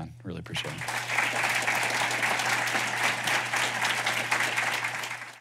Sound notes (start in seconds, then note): 2.2 applause